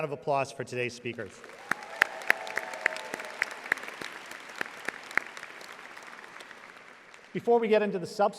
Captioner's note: audience applauding